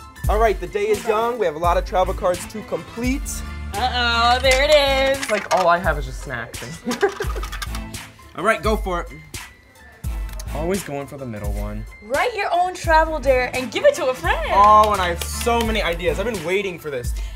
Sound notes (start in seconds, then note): 6.6 laughs